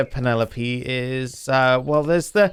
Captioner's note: none